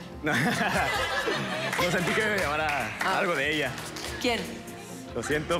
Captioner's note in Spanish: Risas